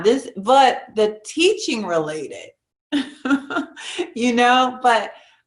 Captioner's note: giggles